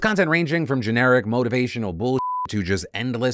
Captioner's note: beeps